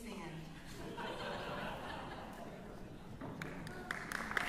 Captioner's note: chuckles